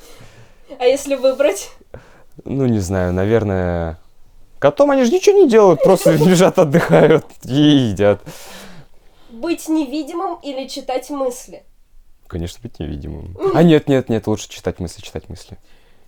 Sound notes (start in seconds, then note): 5.7 laughter